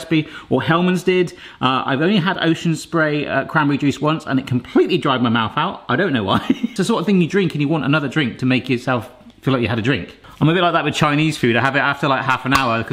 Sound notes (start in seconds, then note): 6.5 laughs